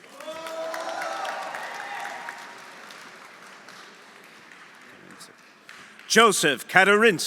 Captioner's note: audience cheering; audience applauding